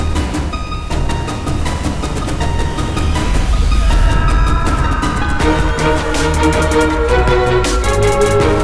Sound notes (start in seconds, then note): 3.6 screams